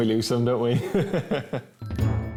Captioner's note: chuckles; uptempo music